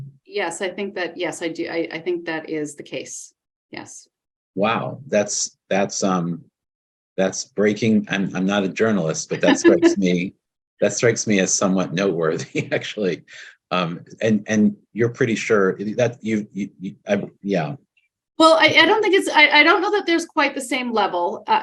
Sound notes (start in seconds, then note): 12.0 people chuckling